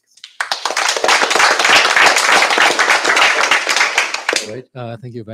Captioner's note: applause